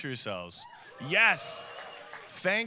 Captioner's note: audience cheering